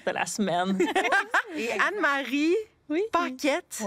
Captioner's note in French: rires